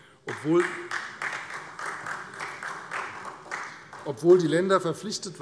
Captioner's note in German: Beifall Freie Demokraten und vereinzelt SPD